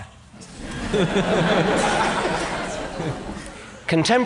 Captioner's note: laughter